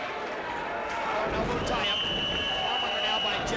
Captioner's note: whistle blowing